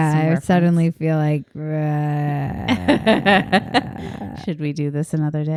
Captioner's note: grumbling